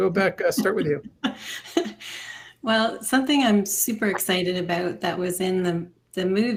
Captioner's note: laughs